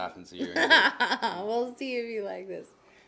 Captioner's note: laughs